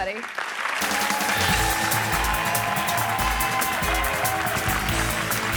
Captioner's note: audience applauding and cheering